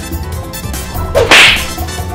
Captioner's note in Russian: бдыщ!